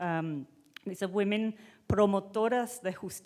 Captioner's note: speaking in foreign language